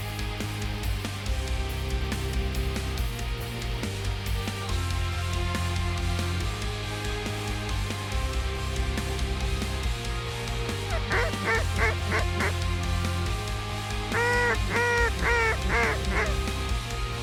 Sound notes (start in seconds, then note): 9.6 duck calls